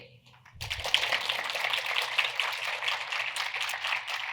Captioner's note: audience applauds